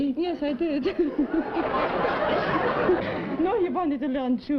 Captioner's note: laughter